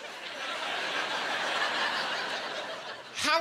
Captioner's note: laughing